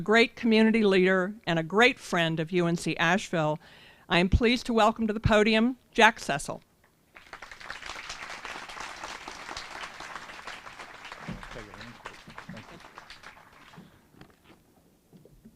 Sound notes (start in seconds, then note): 12.6 applause